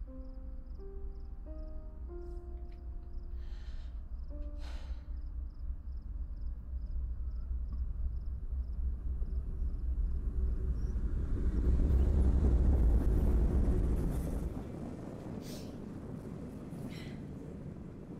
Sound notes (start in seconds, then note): 0.0 mournful music; 4.2 rumble of a train